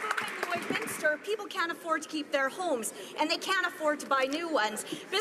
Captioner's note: some Applause